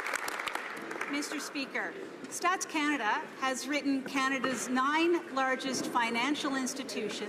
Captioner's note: some Applause